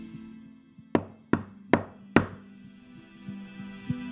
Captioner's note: knock at the door